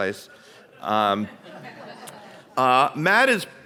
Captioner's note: audience laughs